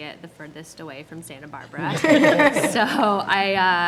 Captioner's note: laughing